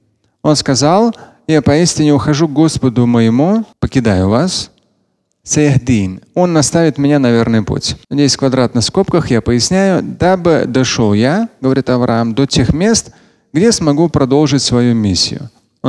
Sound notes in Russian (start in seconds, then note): 4.2 говорит на арабском